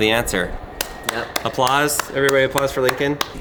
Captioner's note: clapping